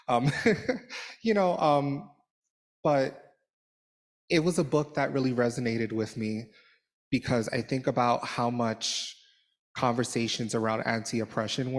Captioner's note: laughter